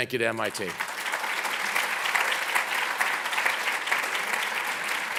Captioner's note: applauding